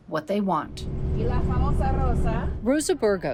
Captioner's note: speaking in foreign language